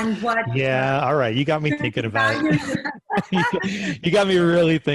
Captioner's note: laughing